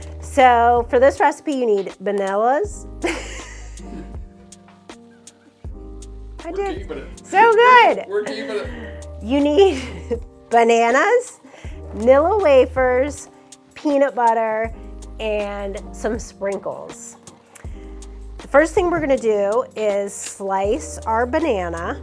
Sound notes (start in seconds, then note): 3.0 laughing